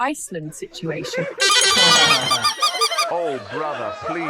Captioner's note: audience laughing